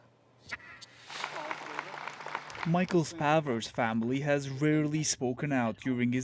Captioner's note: applause